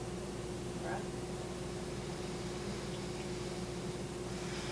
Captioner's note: blows out air